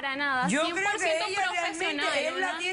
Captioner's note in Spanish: Hablan al unísono